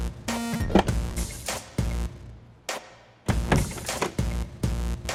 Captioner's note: doors open and close